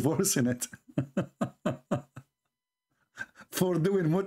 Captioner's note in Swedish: Skratt